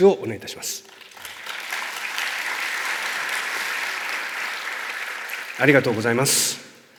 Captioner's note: clapping sound